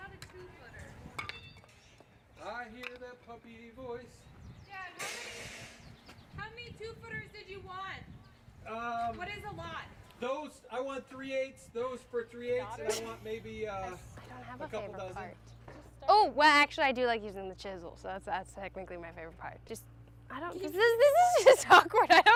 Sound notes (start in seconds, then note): 4.9 construction noise; 12.8 laughs